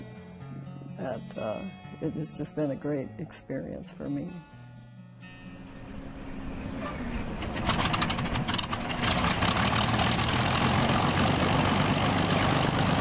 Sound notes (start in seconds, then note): 10.2 propellers humming